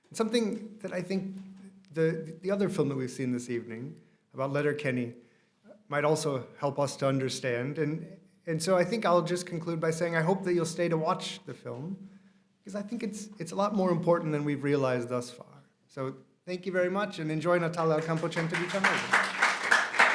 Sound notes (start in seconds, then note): 15.9 applause